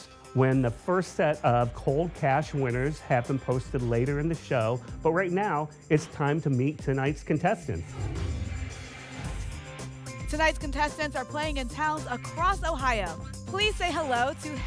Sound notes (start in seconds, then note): 7.8 whoosh